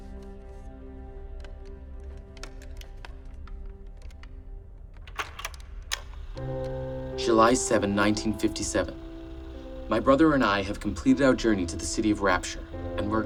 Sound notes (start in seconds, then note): 4.9 series of clicking